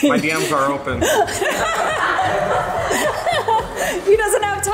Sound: laughs

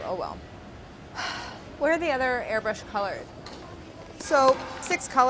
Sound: sighs

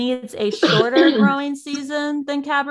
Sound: coughs

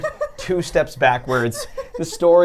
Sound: laughs

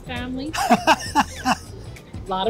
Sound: laughs

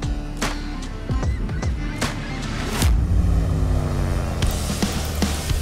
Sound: seagulls squawking

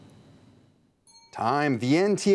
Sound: timer dings

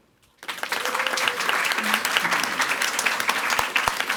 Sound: audience applauds

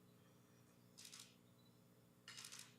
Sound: camera shutter clicking

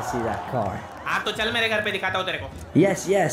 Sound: non-english speech

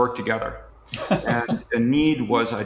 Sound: laughs

